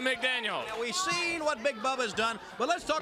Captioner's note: crowd cheering